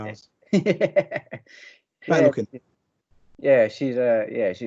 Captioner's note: muttering In Agreement